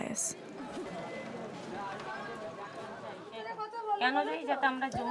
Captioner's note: people talking in background; speaking Indian language